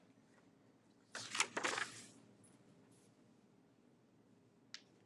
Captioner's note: paper rustling